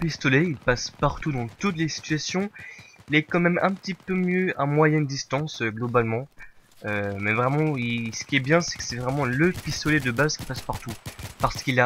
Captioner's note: rate fire